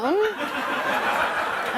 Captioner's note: laughter